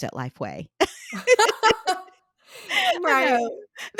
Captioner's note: laugh